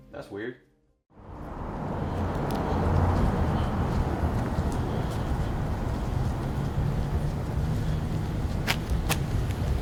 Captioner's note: traffic noise